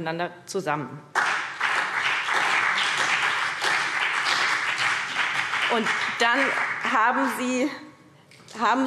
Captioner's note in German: Beifall BÜNDNIS 90/DIE GRÜNEN und vereinzelt CDU